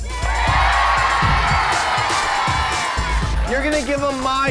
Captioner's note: audience cheering